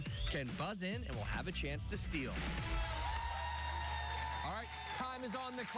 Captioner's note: cheers and applause